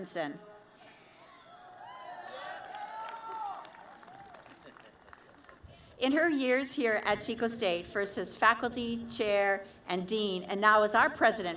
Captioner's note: cheering